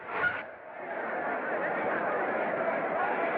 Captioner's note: clamoring Continues